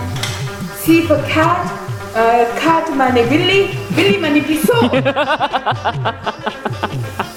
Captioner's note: urdu